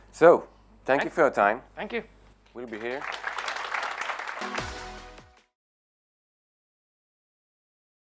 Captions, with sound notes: So thank you for your time. - Thank you. - We'll be here. (audience applauding) (bright music)